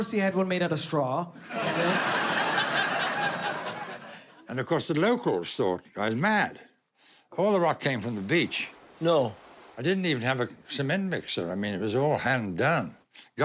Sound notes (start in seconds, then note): 1.5 laughs